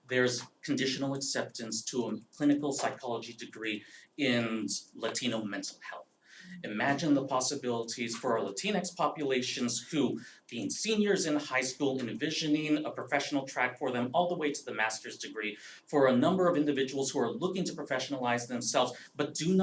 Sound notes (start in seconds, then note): none